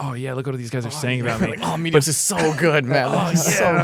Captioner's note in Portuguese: risos